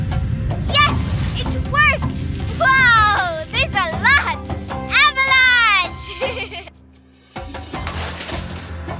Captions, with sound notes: Yes! It worked! Wow! There's a lot! Avalanche! (giggling)